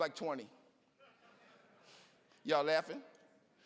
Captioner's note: audience laughing